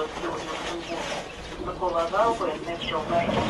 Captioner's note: radio